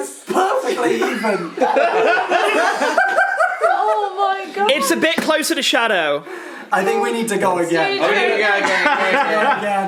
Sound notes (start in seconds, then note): 0.6 laughs